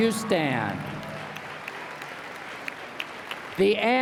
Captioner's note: applause